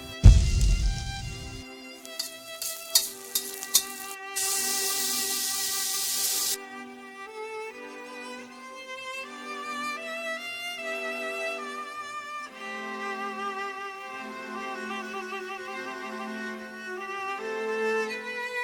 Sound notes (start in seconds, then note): 0.0 soft music; 4.3 sizzling; 6.5 soft music